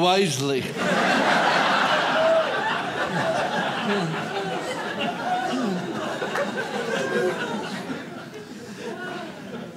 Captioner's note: audience laughs